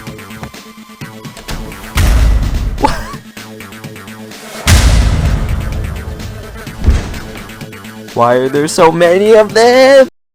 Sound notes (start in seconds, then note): 2.6 wheeze; 4.4 ddunnn; 6.7 thud